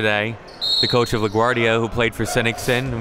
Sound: whistle blows

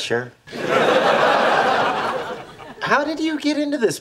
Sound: audience laughing

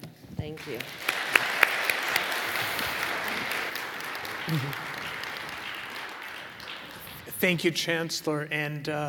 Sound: applause

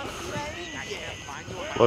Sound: birds chirping

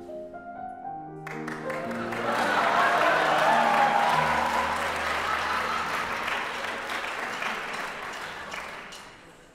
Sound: audience Cheers

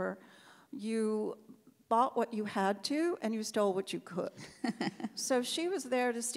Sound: laughs

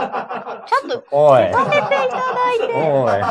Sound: laughs

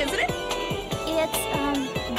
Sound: none

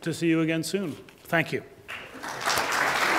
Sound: applause

